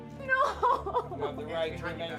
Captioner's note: sobs